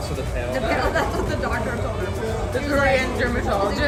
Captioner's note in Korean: ㅋㅋ